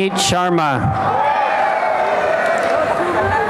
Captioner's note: applause and cheering